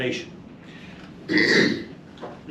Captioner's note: clears throat